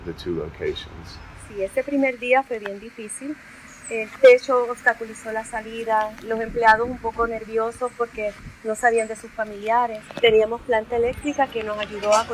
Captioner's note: non-english speech